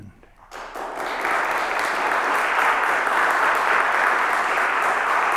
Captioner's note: audience applauds